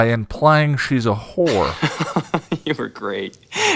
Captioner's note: laughs